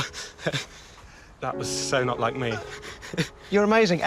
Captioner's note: laughs